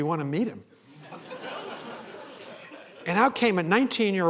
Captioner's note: laughter